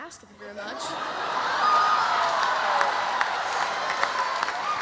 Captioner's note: audience laughs